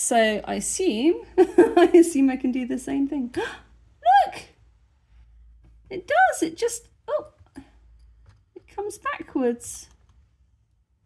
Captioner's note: gasp